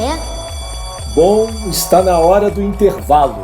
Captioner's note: alarm